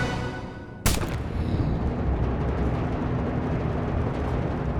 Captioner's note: gunshot